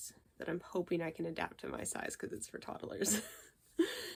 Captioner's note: laughs